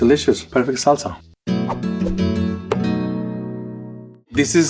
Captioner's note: graphics whooshing; gentle guitar music